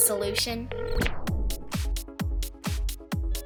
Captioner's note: ringing